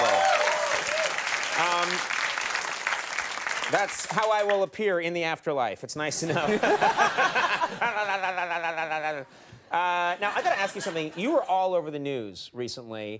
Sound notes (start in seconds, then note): 0.0 audience applauds; 6.3 audience laughs; 7.8 Conan mocks audiences laugh